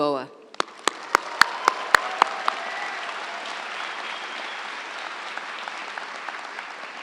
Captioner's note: audience applauds; audience cheers